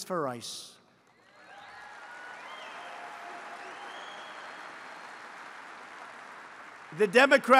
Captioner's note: applause